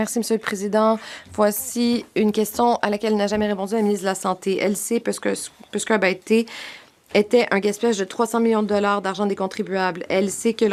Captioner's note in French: voix de l'interprète